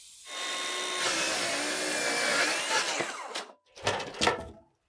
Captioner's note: power tool whizzing